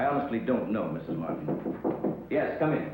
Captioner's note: knocking